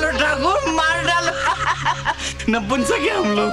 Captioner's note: Laughs